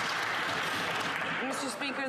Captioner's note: some Applause